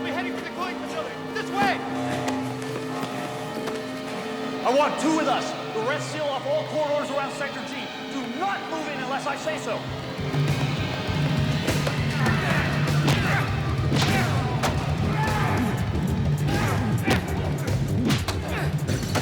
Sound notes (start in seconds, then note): 10.7 dramatic music; 13.0 grunts and groans; 13.0 thuds and smacks